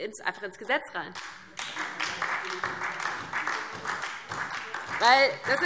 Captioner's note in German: Beifall DIE LINKE und vereinzelt SPD